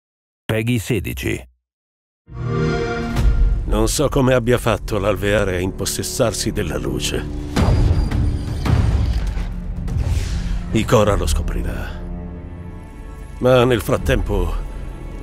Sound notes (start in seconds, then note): 2.4 Xbox Sound